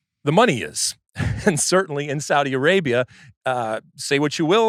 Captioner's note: laughs